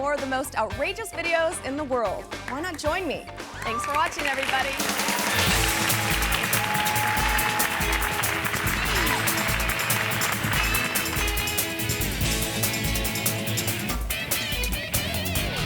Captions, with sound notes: with more of the most outrageous videos in the world. Why not join me? Thanks for watching, everybody. (audience cheering) (hands clapping) (upbeat music)